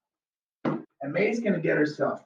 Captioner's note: laundry basket thumps